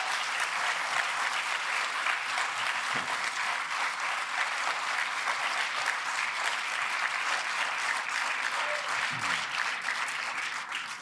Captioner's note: applause